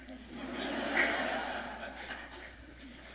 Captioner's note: laughter